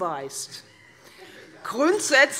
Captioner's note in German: Heiterkeit Freie Demokraten